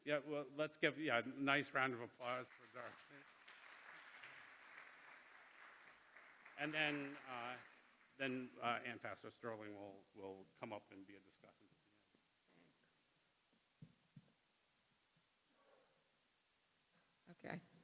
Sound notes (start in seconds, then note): 2.1 applause